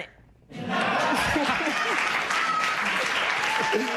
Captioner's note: laughter, applause